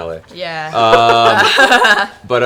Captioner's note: laughs